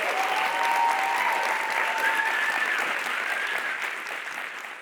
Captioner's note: applause